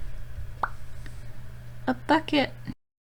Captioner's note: pop